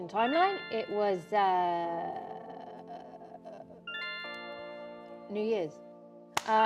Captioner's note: notification sound